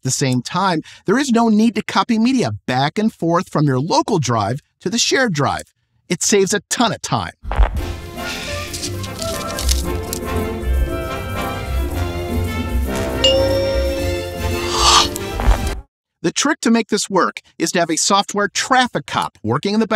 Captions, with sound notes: same time, there is no need to copy media back and forth from your local drive to the shared drive. It saves a ton of time. [whimsical music plays] [exasperated sigh] The trick to making this work is to have a software "traffic cop”